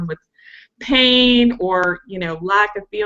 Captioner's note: none